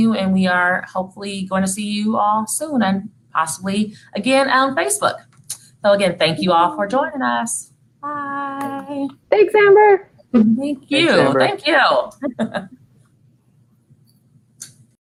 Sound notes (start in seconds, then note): 12.0 laughing